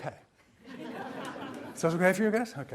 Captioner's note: audience laughs